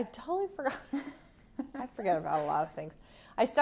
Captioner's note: laughter